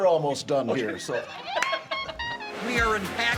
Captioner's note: laughing